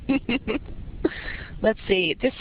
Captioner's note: laughter